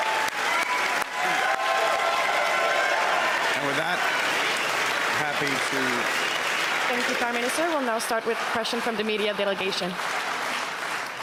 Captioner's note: cheers and Applause